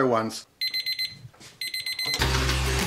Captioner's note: timer blaring; upbeat music